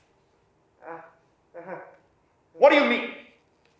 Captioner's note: messenger laughing